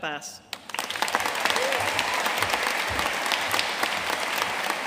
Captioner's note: audience applauding